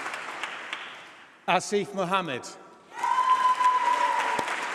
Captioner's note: applause